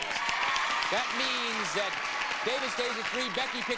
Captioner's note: audience applauding; audience cheering